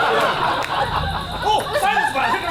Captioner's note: audience laughs